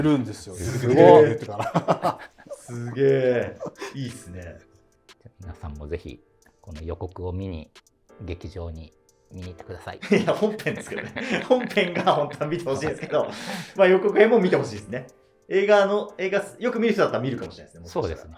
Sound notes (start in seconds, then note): 0.6 laughing